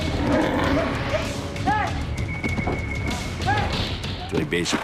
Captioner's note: yelling